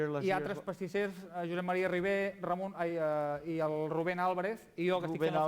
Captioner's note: non-english speech